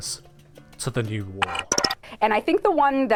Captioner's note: glitch effect